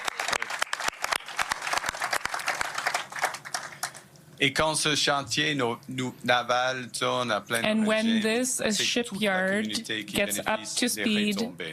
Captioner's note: applause